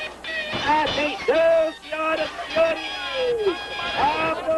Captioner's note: flute playing; crowd chattering